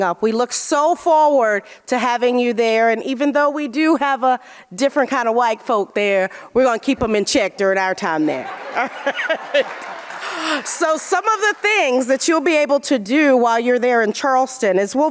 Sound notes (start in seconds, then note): 8.3 audience laughing